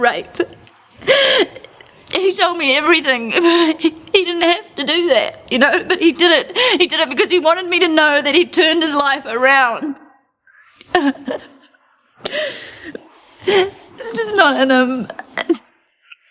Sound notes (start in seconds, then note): 10.8 Trina sobbing